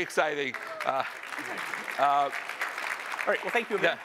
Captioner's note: applause